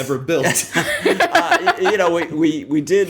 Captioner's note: laughter